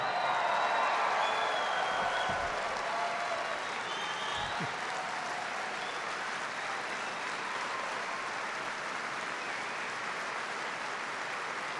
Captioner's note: applause